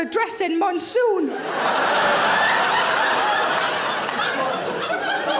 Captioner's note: audience laughing